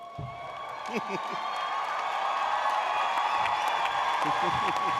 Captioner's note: audience cheering